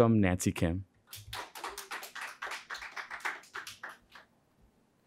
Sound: audience clapping

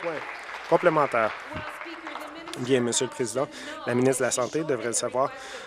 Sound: applause

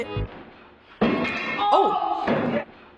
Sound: loud bang

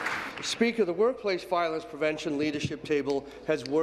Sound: applause

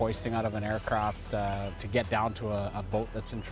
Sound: voiceover

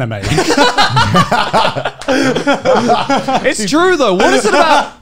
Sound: men laughing

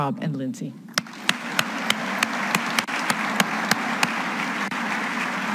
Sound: all applauding

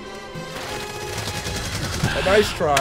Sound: gunshots

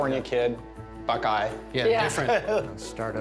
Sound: laughter

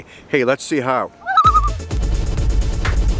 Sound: loon call

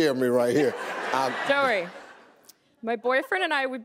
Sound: audience laughing

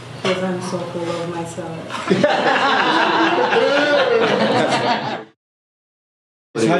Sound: all laugh

